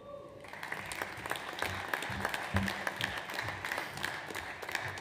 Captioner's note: audience applauds